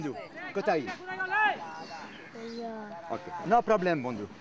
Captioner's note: Indian spoken audio